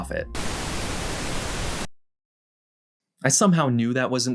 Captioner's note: TV Static